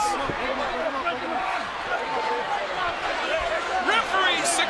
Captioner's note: all chattering